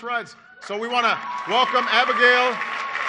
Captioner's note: applause